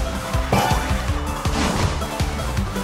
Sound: jump sound

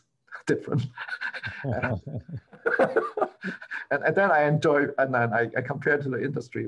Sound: laughter

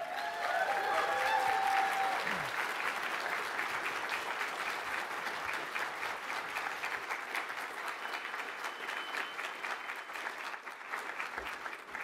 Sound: applause

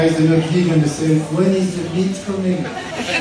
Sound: laughter

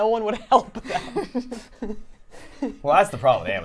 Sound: laughs

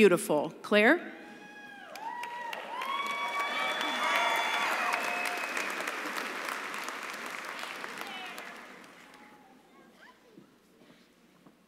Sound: cheering and applause

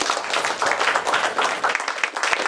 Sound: applause

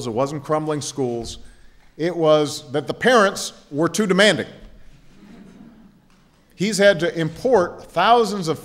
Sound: laughter

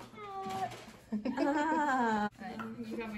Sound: laughter

